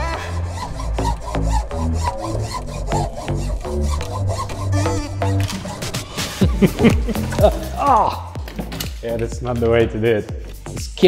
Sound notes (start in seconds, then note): 0.0 hand saw whirs; 6.3 laughter; 7.4 groans